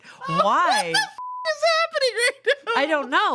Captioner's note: beep